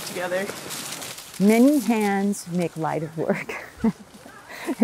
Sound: laugh

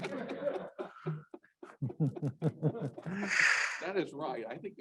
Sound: laughter

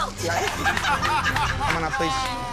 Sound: laughter

